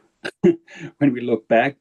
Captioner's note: chuckling